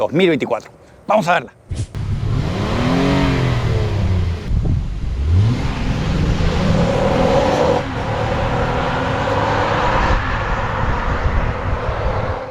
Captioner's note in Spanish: Sonido del Motor